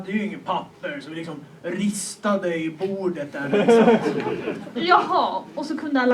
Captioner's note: laughter